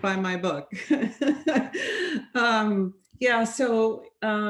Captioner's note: laughs